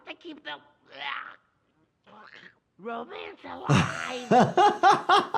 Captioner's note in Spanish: Atragantándose; risas